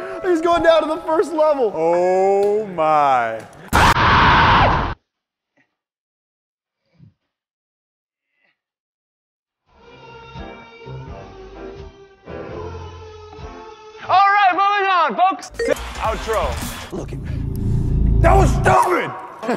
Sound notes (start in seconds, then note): 3.6 screams in enragement